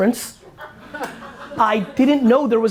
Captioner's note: laughter